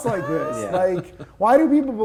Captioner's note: laughing